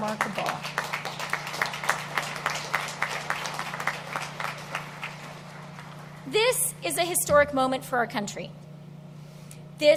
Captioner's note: applause